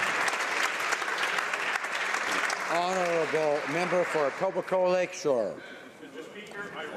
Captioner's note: applause